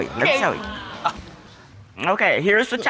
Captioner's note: audience gasps